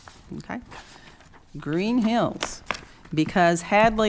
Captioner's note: taps papers